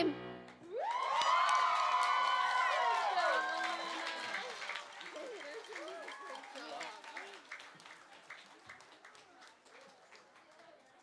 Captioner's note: applause